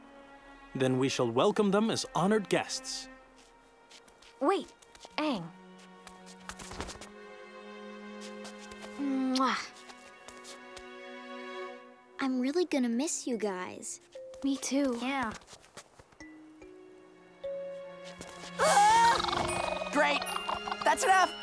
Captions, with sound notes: Then we shall welcome them as honored guests. Wait. Aang. [kissing] I'm really gonna miss you guys. - Me too. - Yeah. Aahh! Great. That's enough.